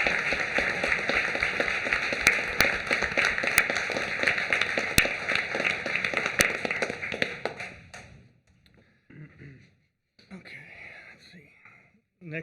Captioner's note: applause